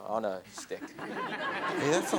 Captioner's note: audience laughs